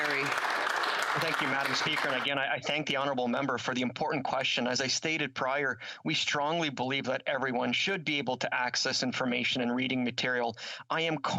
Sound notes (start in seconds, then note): 2.9 applause